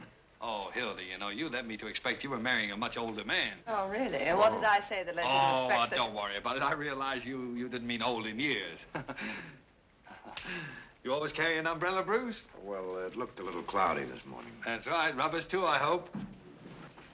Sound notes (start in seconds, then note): 10.0 chuckles